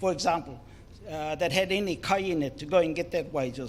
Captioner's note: foreign Language